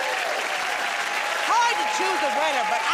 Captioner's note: cheers and applause